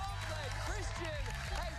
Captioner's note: cheers and applause